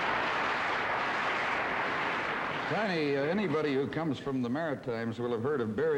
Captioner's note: audience applause